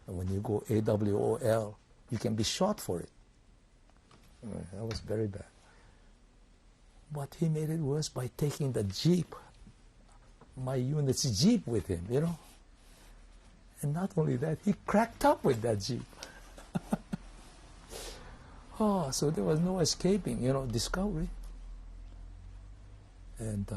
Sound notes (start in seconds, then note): 16.3 laughs